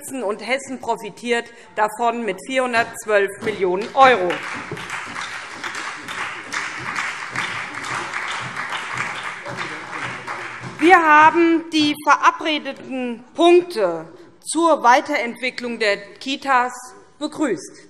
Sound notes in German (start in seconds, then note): 3.8 Beifall SPD